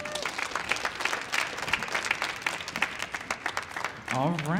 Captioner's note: audience clapping